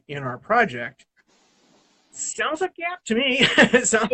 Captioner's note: laughs